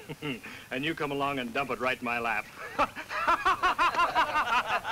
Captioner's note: laughs